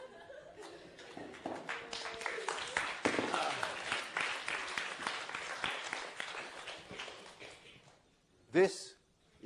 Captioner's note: applause